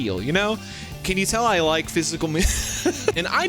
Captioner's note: laughs